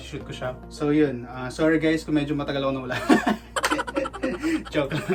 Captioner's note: laughs